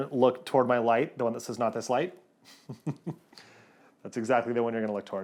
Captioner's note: chuckles